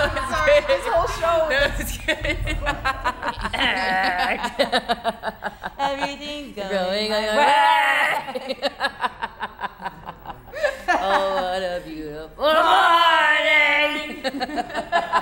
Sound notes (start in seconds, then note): 1.9 laughing; 9.5 laughing; 13.8 laughing